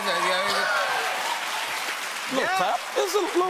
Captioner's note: cheers and applause